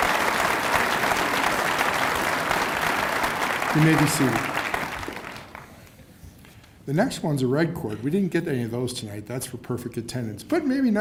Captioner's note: cheers and applause